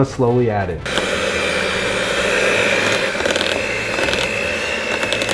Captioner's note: machine whirring